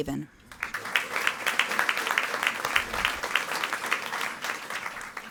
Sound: audience applauding

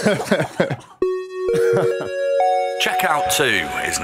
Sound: chime

